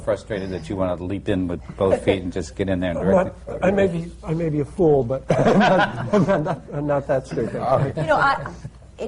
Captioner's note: he laughs